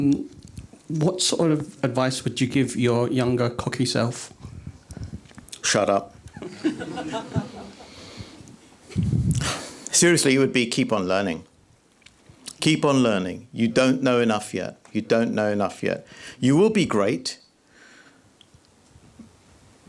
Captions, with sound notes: - What advice would you give your younger cocky self? - Shut up. [laughter] [sighs] Seriously, it would be keep on learning. Keep on learning. You don't know enough yet. You don't know enough yet. You will be great...